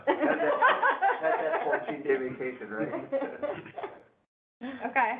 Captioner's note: laughter